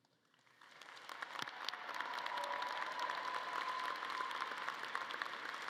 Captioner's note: audience cheering and clapping